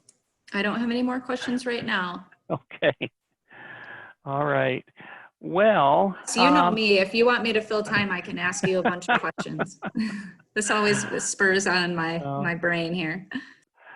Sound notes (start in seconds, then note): 2.5 chuckles; 8.4 laughing